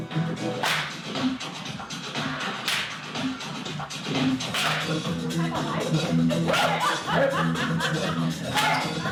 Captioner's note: clapping